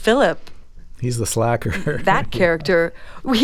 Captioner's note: laughter